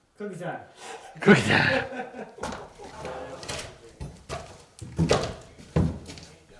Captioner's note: laughing